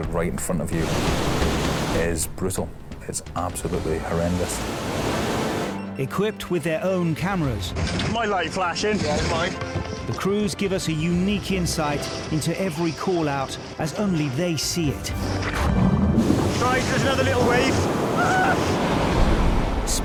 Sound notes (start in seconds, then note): 15.7 water gurgling; 18.1 rescuer exclaims